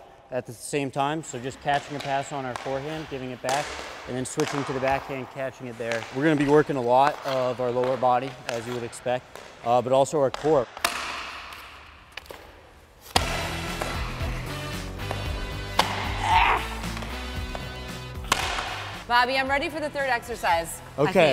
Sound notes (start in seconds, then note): 13.2 upbeat music; 16.1 grunts